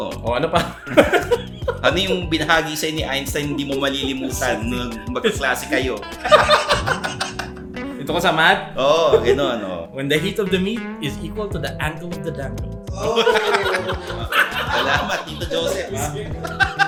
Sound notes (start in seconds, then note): 5.8 both continue laughing; 12.9 both laughing; 16.7 continues laughing